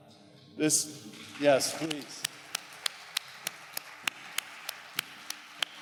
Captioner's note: audience applause